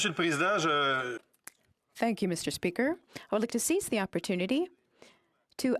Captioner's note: speaking French